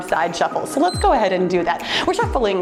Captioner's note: timer beeps